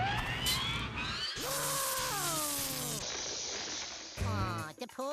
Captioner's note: screaming